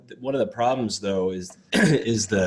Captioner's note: coughs